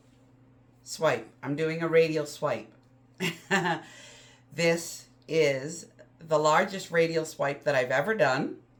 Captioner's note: laughs